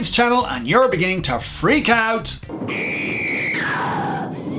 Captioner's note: screams